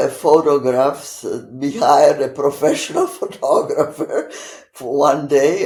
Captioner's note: laughing